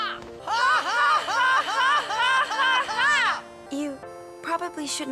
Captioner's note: Tidus laughing; Tidus and Yuna laughing